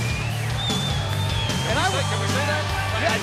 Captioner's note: crowd cheering